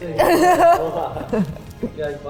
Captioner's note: laughs